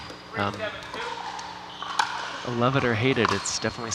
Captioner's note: ball bouncing